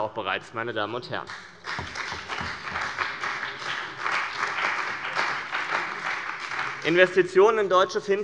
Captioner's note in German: Beifall bei dem BÜNDNIS 90/DIE GRÜNEN und der CDU